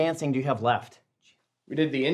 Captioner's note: whispering